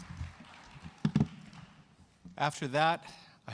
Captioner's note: cheers and applause